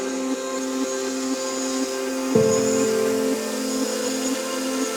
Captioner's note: drone buzzing